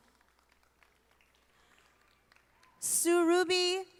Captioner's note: audience applauding